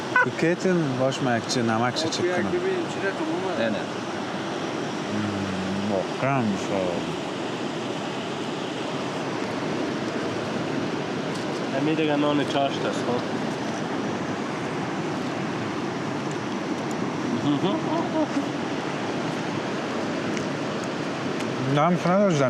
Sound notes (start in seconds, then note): 8.6 talking